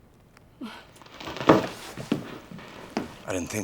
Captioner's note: mutters softly